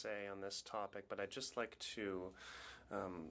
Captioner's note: speaking French